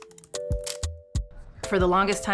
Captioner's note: mellow music; camera clicks